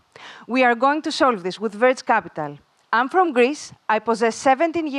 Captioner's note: none